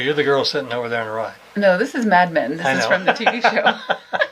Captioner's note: she laughs; he laughs